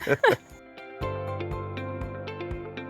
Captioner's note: laughing